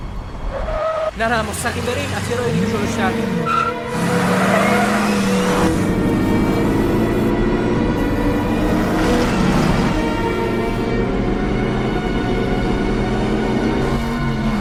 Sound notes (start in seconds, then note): 4.1 tire screeching; 7.7 suspenseful music